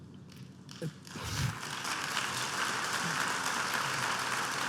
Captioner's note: applause